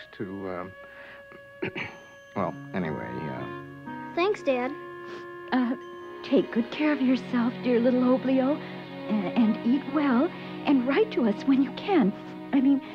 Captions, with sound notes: (clears throat) well, anyway-- - Thanks, Dad. (sniffles) - Take good care of yourself, dear, little Oblio. And eat well. And write to us when you can. I mean, it doesn't have to be anything long,